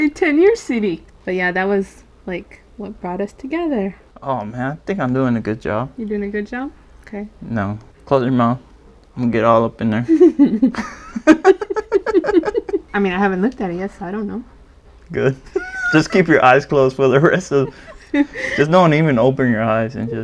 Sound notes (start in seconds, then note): 10.0 giggle; 15.2 laughs